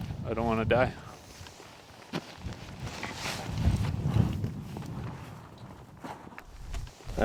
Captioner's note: wind gusts